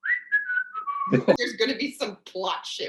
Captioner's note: whistling